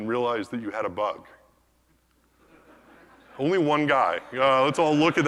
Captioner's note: laugh